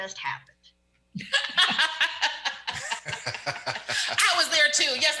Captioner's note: all laughs